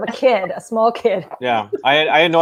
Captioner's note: laughing